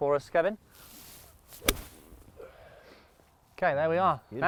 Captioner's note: club strikes